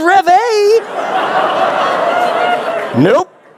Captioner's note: laughter